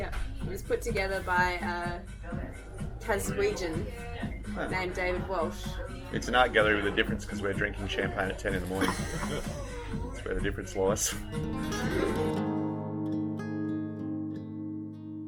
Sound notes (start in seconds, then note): 8.6 laughs; 11.8 gentle acoustic music